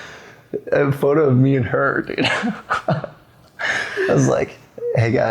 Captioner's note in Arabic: يضحك